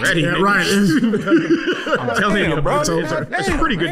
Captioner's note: indistinct talking an laughter